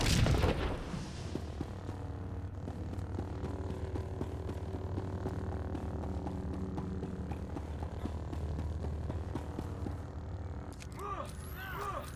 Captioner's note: gunshots